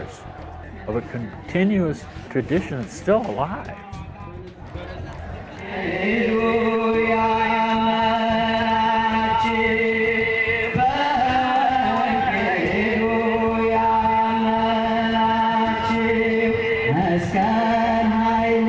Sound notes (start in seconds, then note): 4.4 chanting